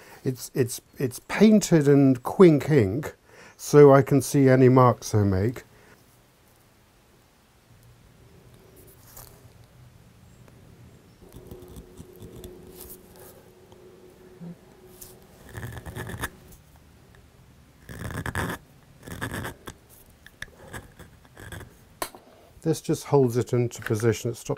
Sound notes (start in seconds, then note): 19.0 carving squeaks